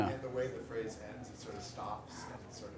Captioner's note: voiceover